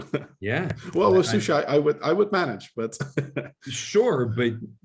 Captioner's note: laughs